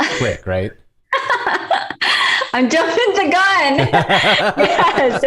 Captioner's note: laughter; laughter